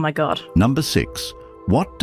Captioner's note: AI Voice